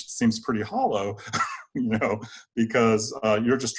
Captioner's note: chuckles